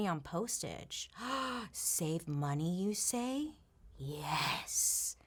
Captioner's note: gasps